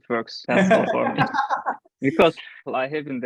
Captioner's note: laughs from the belly!